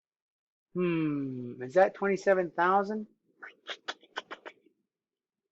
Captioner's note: clicks tongue